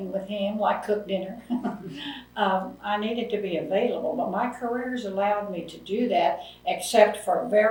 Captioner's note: laughs